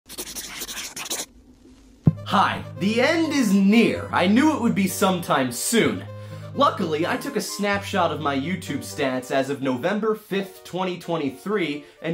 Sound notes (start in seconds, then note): 0.0 scribbling